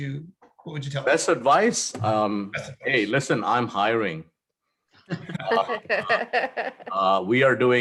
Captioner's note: laugh